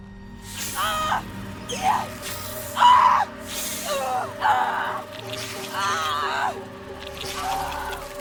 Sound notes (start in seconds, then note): 0.6 Lock screaming; 0.6 plant hissing